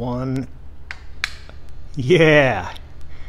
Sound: switch clicks

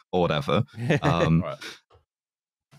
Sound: laughs

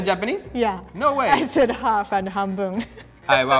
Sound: speaking in foreign language

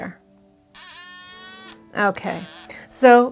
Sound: Acupoint device beeping

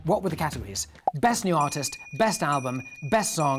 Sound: popping; dinging

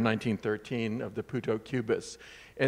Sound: speaks in foreign language

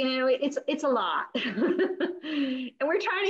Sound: laughing

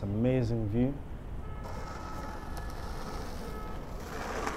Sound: horns honking

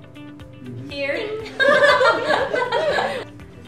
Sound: laughs

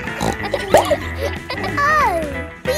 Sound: snorts

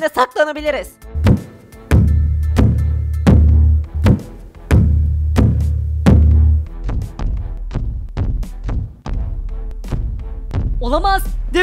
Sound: War and Peace walking sound

